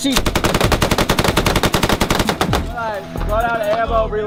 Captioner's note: weapon firing